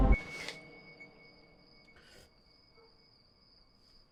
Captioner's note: crickets chirping